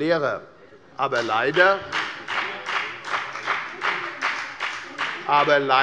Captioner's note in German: Beifall bei der FDP